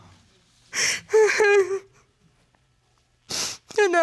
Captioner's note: crying